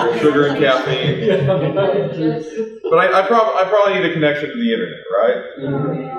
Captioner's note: laughter